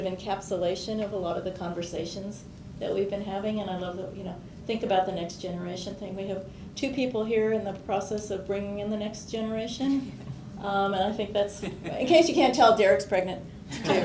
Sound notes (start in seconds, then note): 11.6 quiet laughter